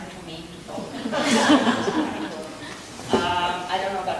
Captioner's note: audience laughing